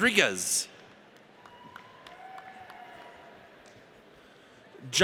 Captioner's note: audience cheers